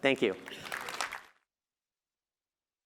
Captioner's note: applause